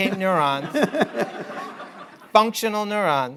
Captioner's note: laughter